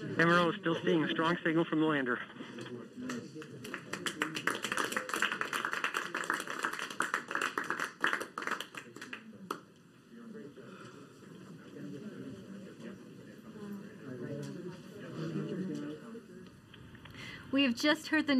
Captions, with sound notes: >> STILL SEEING A STRONG SIGNAL FROM THE LANDER. FROM THE LANDER. [APPLAUDING]